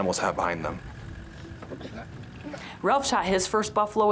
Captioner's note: outdoorsmen grunting